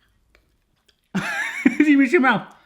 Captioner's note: laughs